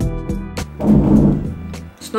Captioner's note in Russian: Громкий грохот